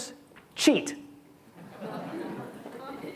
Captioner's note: audience laughs